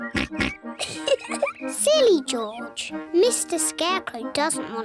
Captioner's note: oinks; giggles